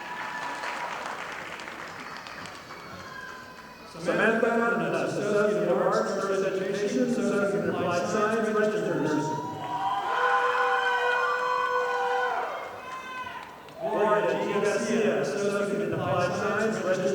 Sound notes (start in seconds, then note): 0.0 audience applauding; 10.8 audience applauding